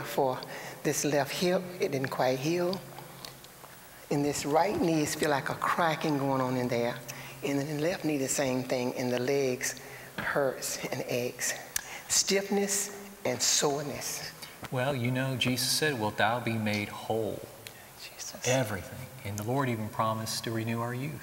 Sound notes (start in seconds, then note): 17.9 whispering